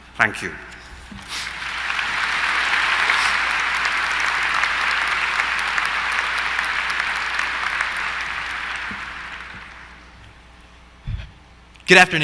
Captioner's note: applause